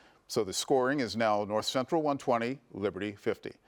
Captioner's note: none